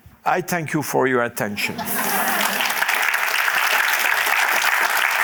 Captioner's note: applause